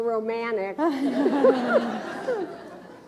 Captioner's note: laughs